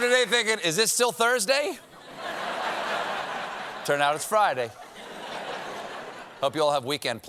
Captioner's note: laughter